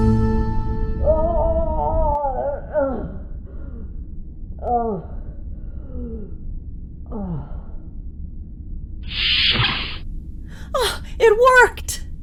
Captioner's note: T'Ling moaning in pain